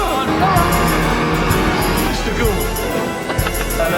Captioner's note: laughs